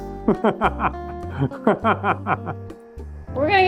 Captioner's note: laughing